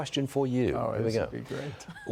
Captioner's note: laughter